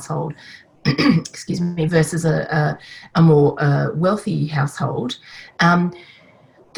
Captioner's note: coughs